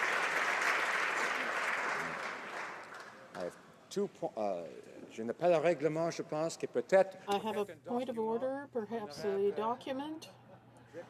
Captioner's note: applause